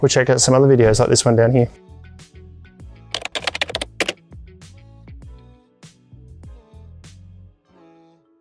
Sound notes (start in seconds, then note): 3.1 typewriter clicking; 3.1 upbeat music